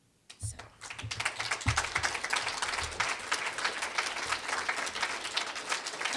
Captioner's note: applause